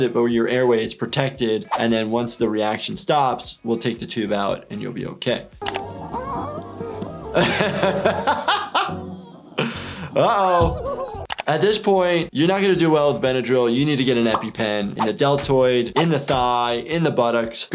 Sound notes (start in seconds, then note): 5.8 Flaky whimpering; 7.8 laughing